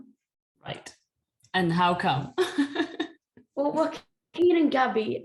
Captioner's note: laughter